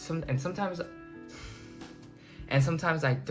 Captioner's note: sighs